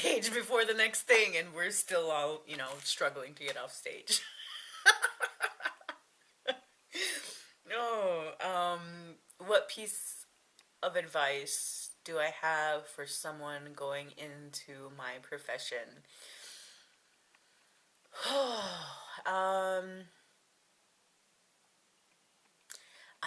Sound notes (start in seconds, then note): 4.8 laughs; 18.1 sigh